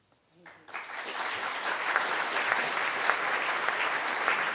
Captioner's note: crowd clapping